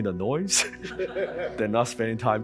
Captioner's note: audience chuckling